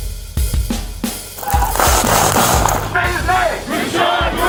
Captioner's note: yelling, gunshots